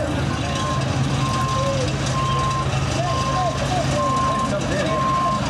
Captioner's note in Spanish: sonido de camiones